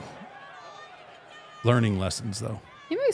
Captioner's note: crowd jeering